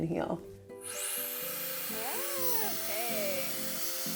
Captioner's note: hairdryer whooshing